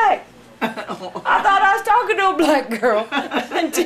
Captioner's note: laughing